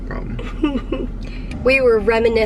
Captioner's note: chuckling